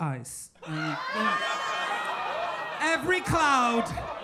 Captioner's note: audience laughing